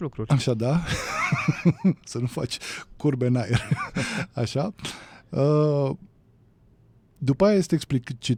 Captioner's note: laughter